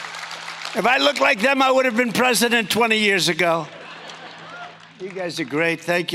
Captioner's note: applause